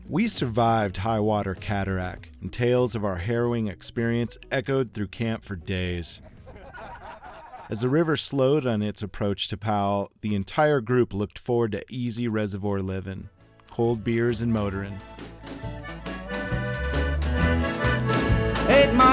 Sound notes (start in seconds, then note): 6.1 all laughing; 15.5 lively music